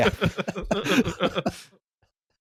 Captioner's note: laughter